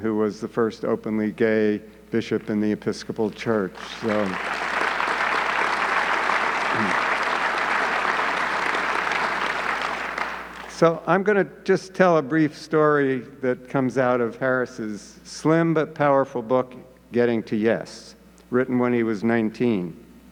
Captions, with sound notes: who was the first openly gay bishop in the Episcopal church. (audience clapping) So, I'm gonna just tell a brief story that comes out of Harris' slim but powerful book, Getting To Yes, written when he was 19.